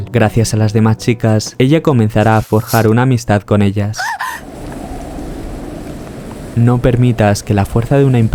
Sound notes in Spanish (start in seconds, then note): 3.8 viento